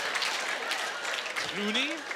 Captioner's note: laughing